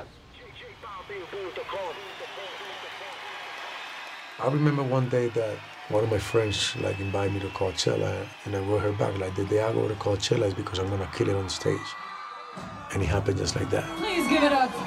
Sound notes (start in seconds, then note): 2.1 crowd cheering; 8.0 speaks Spanish